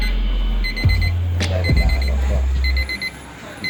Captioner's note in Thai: เสียงเตือน ตีดๆๆ